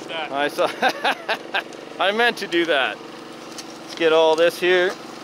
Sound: laughs

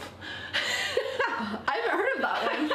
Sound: laughs

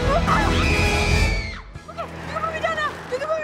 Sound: mj screams

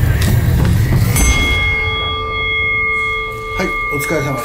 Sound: ringing

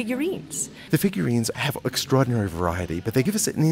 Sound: voiceover

